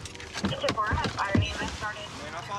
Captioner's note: police radio chatter